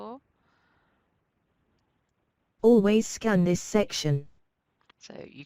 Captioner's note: computer speaks